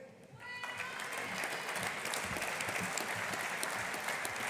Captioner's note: audience applauding